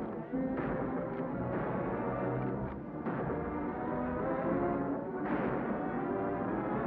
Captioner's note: tense music; guns bang